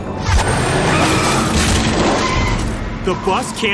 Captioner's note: tires screeching